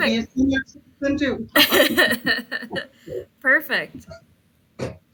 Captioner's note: laughing